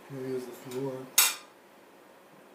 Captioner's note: clink sound; clink sound again